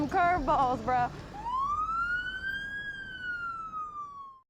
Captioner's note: sirens